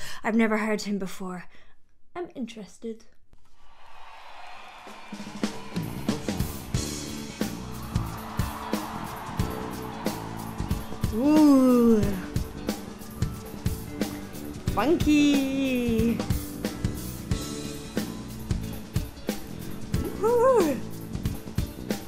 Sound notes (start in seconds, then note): 3.5 audience cheers; 5.0 affectionate music